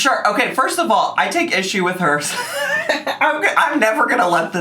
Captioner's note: laughs